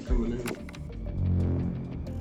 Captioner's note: camera click